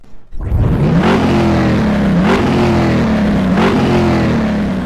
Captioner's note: engine revving